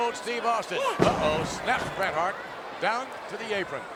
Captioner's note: ref shouts